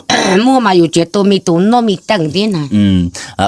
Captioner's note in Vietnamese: hắng giọng